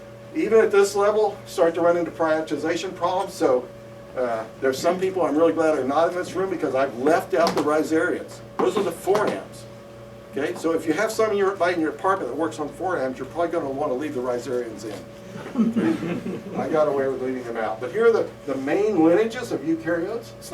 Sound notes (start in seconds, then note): 15.3 laughter